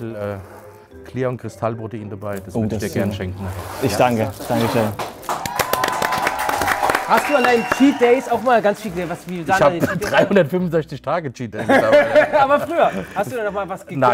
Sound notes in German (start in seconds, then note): 5.0 Applaus, Jubel; 11.6 Amüsiertes Lachen